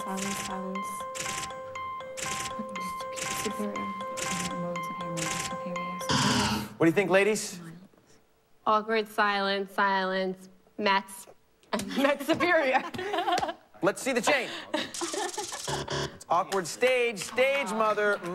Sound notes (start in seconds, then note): 0.1 muttering; 6.0 buzzer; 15.6 buzzer